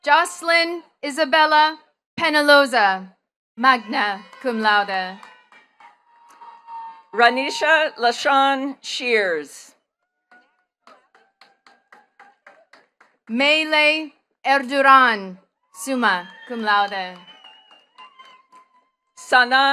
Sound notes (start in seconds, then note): 5.5 attendees cheering and clapping; 10.2 attendees clapping; 17.4 attendees cheering and clapping